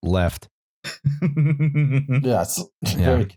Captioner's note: chuckles